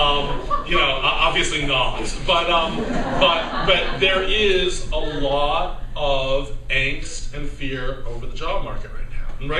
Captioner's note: laughter